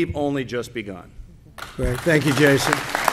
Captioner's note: applause